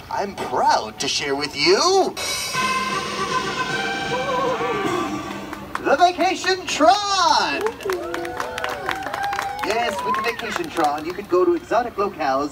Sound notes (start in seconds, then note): 2.1 fanfare music; 4.8 audience claps